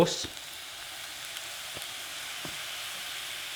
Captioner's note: sizzles